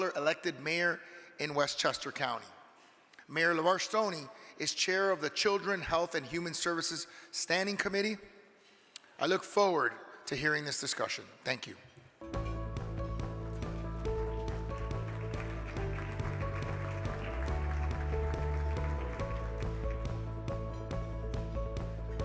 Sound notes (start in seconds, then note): 14.1 uplifting music; 17.0 crowd clapping